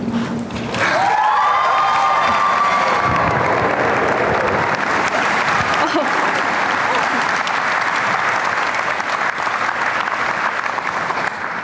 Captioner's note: applause